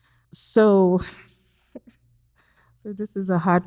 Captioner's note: chuckles